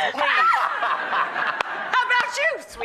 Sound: audience laughs

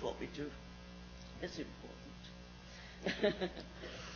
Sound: laughs

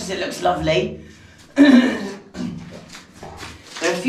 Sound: clears throat

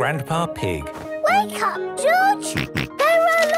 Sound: George snorts

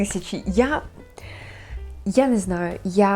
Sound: breath

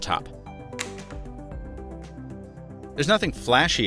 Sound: upbeat music; phone thumps

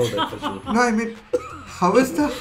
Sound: laughs

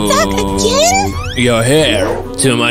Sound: grunting

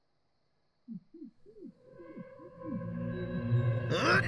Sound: man screams in the trunk

